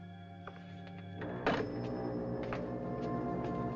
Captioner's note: foghorn Blows